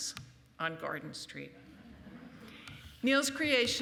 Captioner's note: laughing